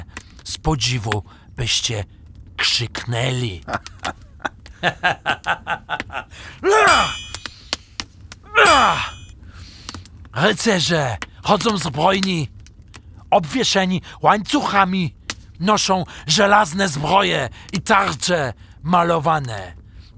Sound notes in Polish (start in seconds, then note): 3.6 śmiech; 4.3 odgłos kowalskiego młota